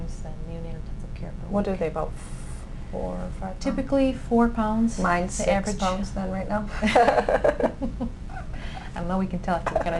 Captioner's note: both laugh